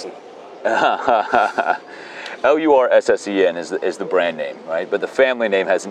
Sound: chuckles

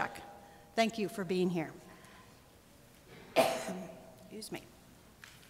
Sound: coughs

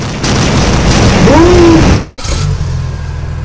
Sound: screams

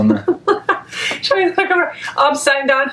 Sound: laughs

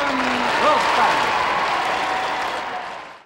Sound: wild applause

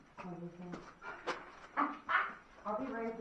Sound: laugh

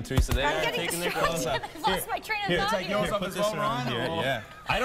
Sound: laughter

